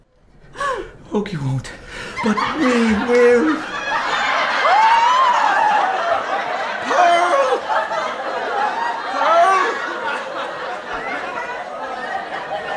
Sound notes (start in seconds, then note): 2.9 audience laughter